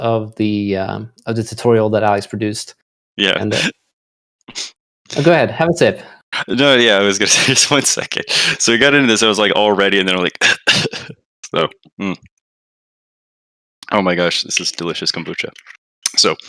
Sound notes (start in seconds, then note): 11.9 clears throat